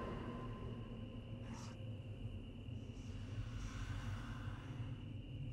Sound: ghostly whisper

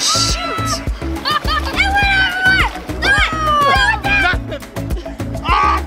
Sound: kids exclaiming excitedly

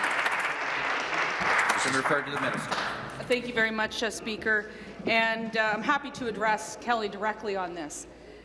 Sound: applause

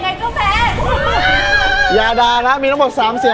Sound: cheering

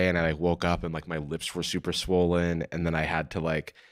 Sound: none

